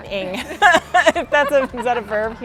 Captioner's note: laughing